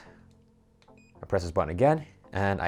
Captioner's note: beeping